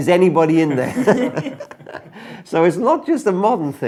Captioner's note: laughing